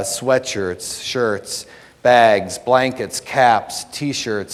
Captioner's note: none